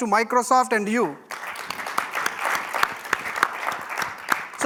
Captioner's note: applause